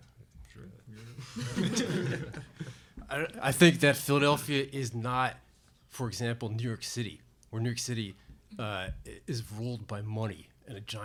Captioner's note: laughter